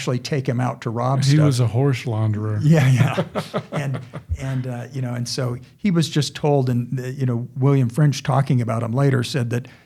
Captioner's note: chuckling